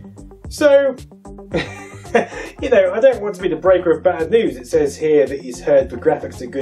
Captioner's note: laughs